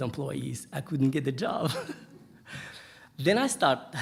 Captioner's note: laughing